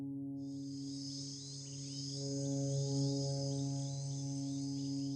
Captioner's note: gentle instrumental music; insects chirping